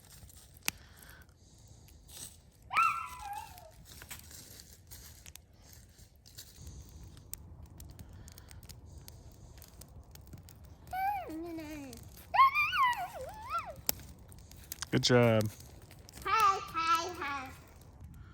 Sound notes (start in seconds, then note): 2.7 excited noise; 10.8 chattering